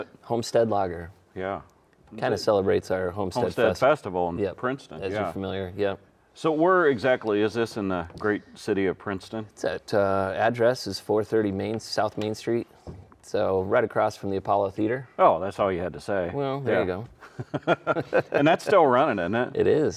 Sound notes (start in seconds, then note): 17.2 both laughing